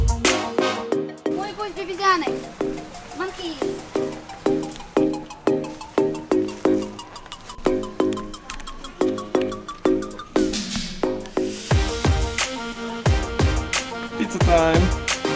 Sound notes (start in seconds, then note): 10.6 nom-nom